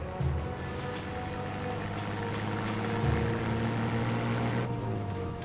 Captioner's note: vehicle approaching